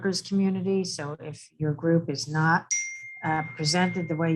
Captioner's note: phone dings